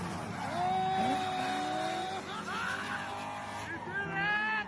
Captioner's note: car engine revving; laughs